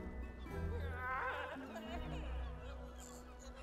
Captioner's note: distant sobs